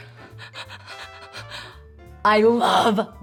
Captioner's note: chuckles nervously